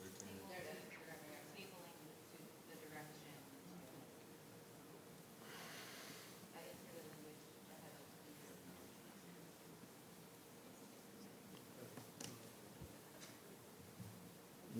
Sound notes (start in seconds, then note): 1.3 participant faintly speaking